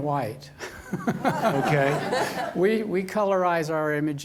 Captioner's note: laughs